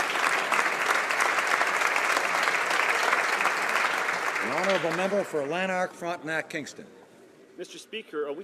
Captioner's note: applause